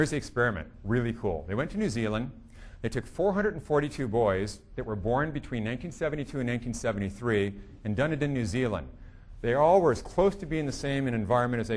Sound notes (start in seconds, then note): none